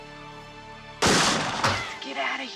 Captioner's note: gun firing